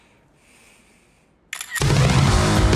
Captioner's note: shutter clicks; upbeat rock music